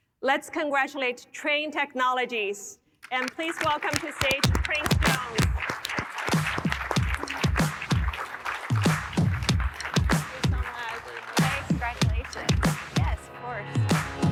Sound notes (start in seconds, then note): 4.4 funky music; 5.8 audience applauding